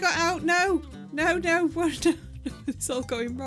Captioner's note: laughing